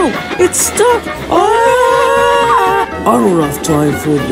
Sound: Percy and his crew screaming

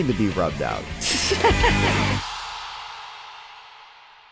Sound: laughter

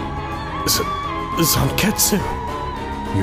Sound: shocked

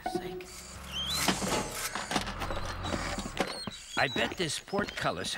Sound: construction Noises

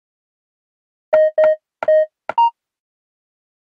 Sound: sound of security code input

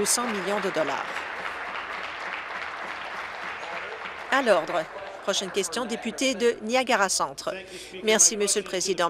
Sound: applause

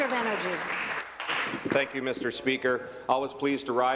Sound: applause

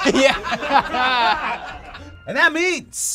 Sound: group laughs

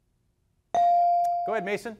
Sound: device dings

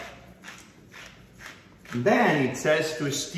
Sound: pepper mill grinding

